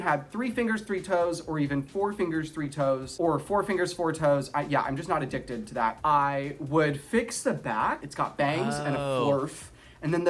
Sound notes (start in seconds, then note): none